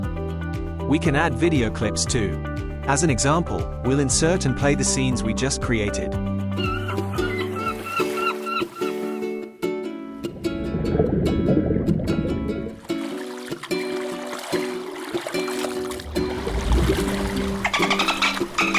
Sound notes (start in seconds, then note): 6.5 bird calls